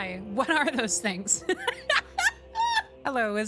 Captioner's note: laughter